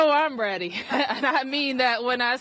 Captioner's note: laughter